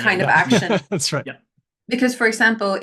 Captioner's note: laughs